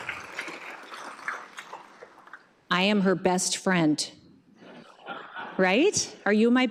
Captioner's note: applause